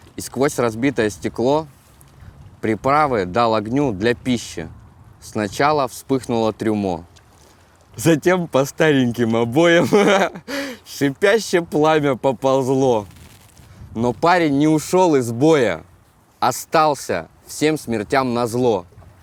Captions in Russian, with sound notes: И сквозь разбитое стекло Приправы дал огню для пищи. Сначала вспыхнуло трюмо, Затем по стареньким обоям (заливается смехом) Шипящее пламя поползло. Но парень не ушёл из боя, Остался всем смертям назло.